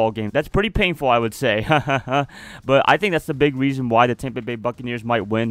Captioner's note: hahaha